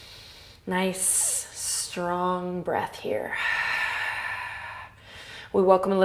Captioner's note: inhales; exhales